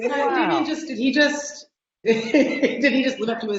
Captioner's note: laughing; laughing